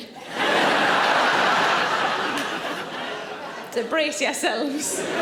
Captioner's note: audience laughing